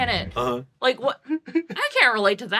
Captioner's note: laughs